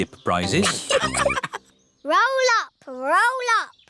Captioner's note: all laughing